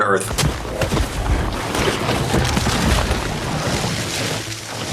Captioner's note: leaves whirring